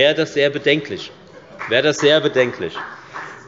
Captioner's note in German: Beifall bei der FDP